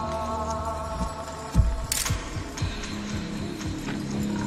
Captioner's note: camera shutter clicks